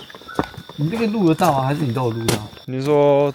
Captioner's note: collared Scops Owl call